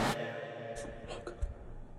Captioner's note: whispers